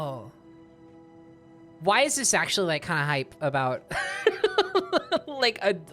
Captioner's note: dramatic strings; laughing